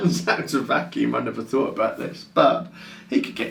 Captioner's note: laughs